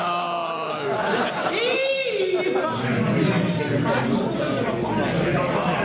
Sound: more laughter

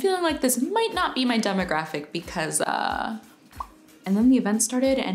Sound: popping sound

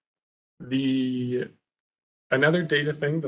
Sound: audio cuts

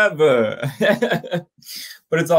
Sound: laughs

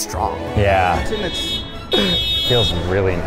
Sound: car honking

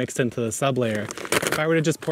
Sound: bag crinkles

